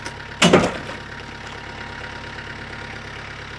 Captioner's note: wood thud